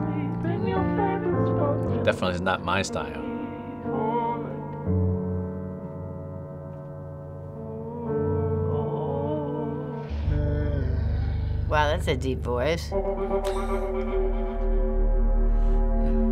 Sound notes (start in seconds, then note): 7.6 faint moaning, becomes distort; 12.8 eerie reverberation